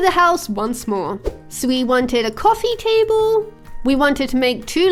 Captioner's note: air whooshing